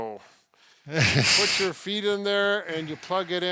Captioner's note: chortles